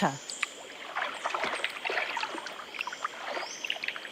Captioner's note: water rustling